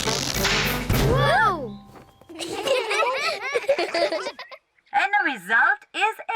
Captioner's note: laugh